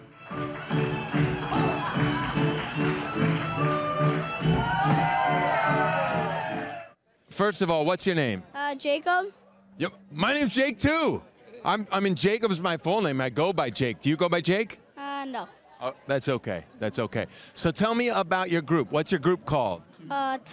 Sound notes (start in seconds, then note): 0.0 lively folk music; 0.2 audience claps; 4.4 audience cheers